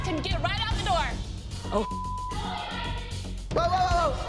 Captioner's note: yelling continues